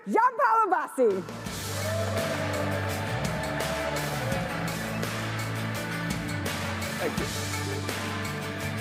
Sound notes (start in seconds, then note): 1.0 exciting music; 1.5 audience cheers